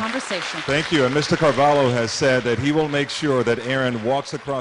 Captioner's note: applause